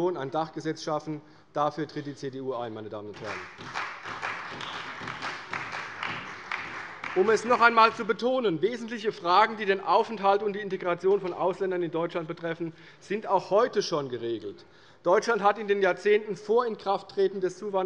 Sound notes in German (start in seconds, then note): 3.1 Beifall bei der CDU